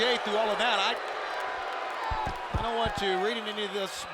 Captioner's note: applause